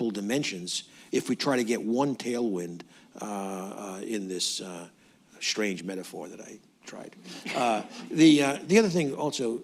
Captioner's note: laughter